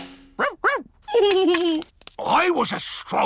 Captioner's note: drumroll; giggles